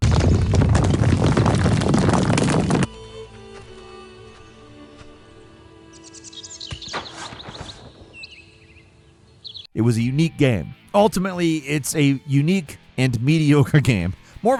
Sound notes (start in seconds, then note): 0.0 rocks rumbling; 0.2 light thoughtful music; 5.5 birds chirping